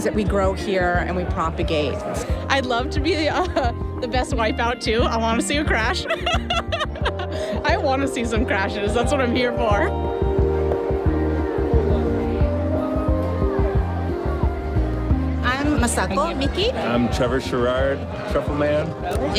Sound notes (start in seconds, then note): 7.0 laughs